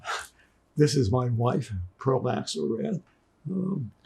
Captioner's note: crying